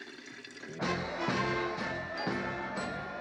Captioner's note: crowd chattering